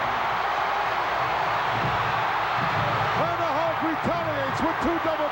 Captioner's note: crowd cheers